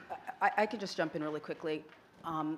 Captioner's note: none